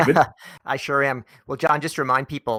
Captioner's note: laughs